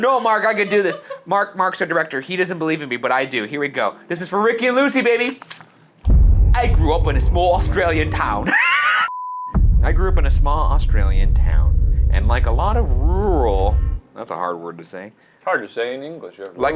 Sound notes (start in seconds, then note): 8.4 laughs